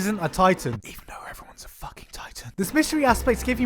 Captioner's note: whispers